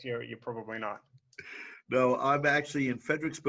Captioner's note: laughing